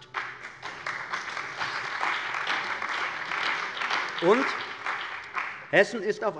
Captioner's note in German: Beifall bei der CDU und dem BÜNDNIS 90/DIE GRÜNEN